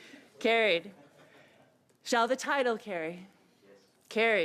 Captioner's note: laughter